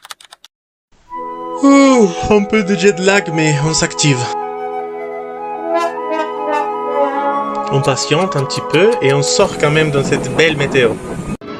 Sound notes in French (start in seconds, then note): 1.6 Bâillement